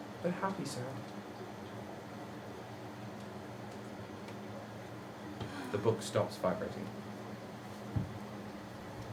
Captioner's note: sighs